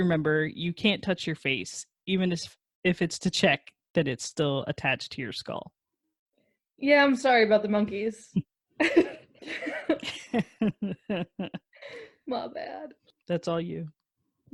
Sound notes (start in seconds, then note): 8.8 laugh